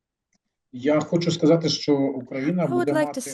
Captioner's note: non-english speech